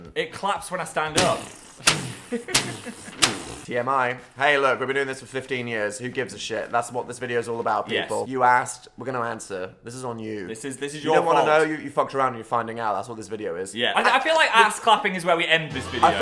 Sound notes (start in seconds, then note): 1.1 making boom noises